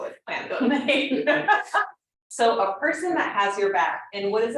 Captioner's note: laughs